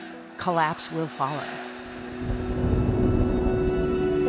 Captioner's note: thunder rumbling